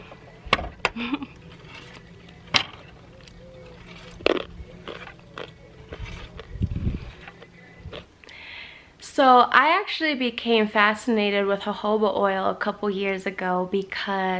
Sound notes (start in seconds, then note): 0.8 giggles; 4.1 more crunching